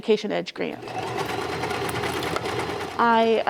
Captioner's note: sewing machine starts up and runs